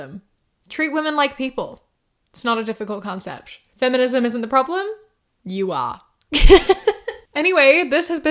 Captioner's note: laughs